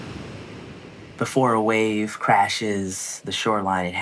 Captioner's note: waves surging then crashing